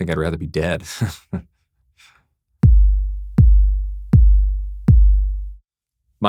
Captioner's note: laughs